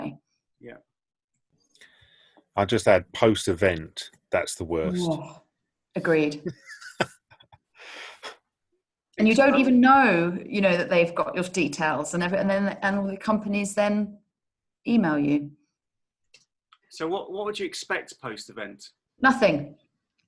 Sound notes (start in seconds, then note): 6.4 laughing